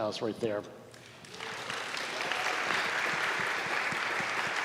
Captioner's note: students applauding